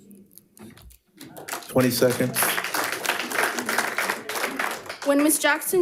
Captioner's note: attendees applauding